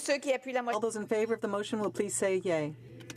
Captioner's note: speaking in french